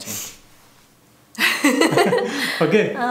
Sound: laughter

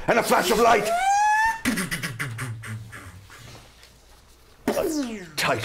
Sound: time machine noise

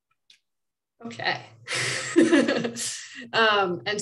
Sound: laughing

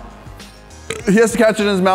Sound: burps

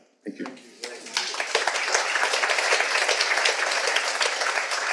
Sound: audience applauding

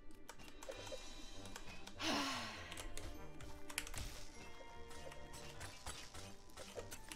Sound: sighs

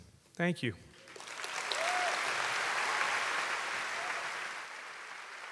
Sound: audience cheers and applauds

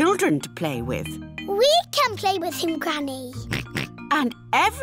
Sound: oinks

